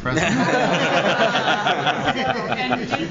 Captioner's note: laughter